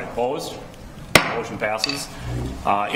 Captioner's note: gavel striking sound block